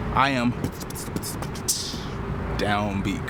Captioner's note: beatboxing